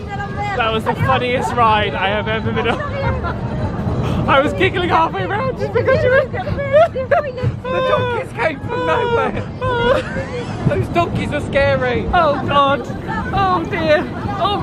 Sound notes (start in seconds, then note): 7.5 chuckling